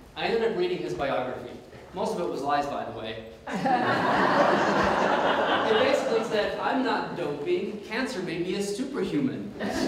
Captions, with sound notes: I ended up reading his biography. Most of it was lies by the way. ( Audience Laughs ) It basically said, I'm not doping, cancer made me a superhuman.